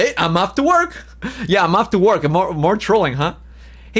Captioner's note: laughs